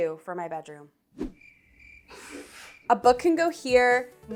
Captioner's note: crickets chirping